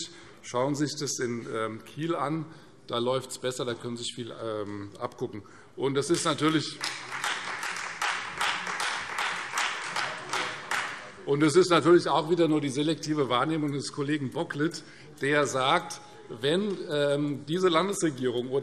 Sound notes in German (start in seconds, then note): 6.2 Beifall Freie Demokraten